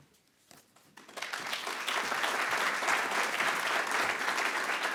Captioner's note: attendees applauding